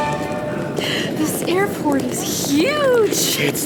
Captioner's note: sound of a rolling suitcase